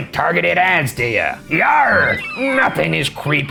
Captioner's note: seagulls cawing